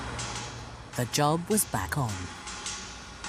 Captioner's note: voiceover